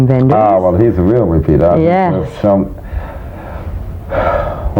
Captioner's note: sighs